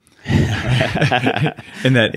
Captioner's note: laughing